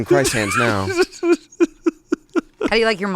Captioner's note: laughs